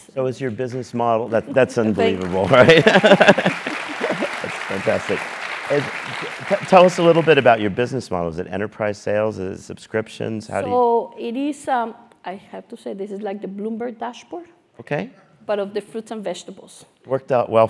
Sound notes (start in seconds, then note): 2.4 laugh; 3.1 applause; 5.3 laugh